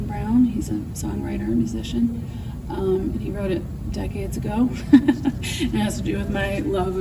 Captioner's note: laughs